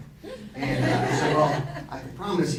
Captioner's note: audience laughing